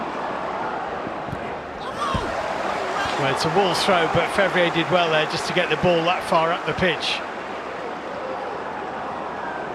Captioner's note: audience oohs